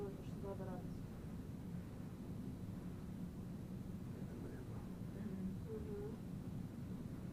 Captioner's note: mumbling